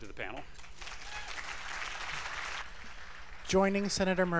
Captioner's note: applause